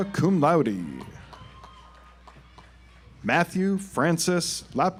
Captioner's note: audience applauds